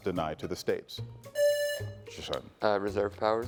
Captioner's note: buzzer buzzing